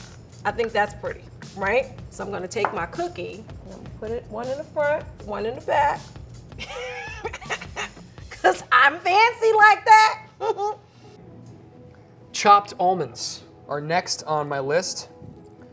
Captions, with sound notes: I think that's pretty. Right? So I'm gonna take my cookie, put it one in the front, one in the back. [laughs] 'Cause I'm fancy like that! [chuckles] - Chopped almonds are next on my list.